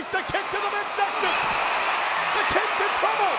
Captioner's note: crowd cheering